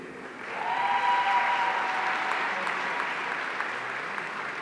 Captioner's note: audience cheering